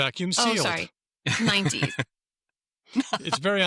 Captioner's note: laughs